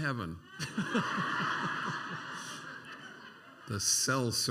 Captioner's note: laughter